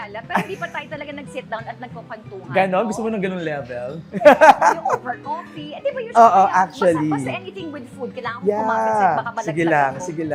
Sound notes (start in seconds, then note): 4.1 laughs